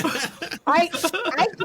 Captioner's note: laughing